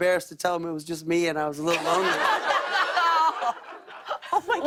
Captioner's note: laughter